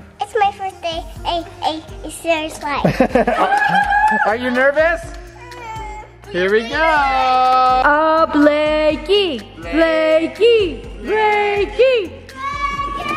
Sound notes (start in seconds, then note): 2.8 laughs; 3.3 cheers